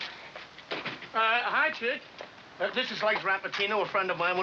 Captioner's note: none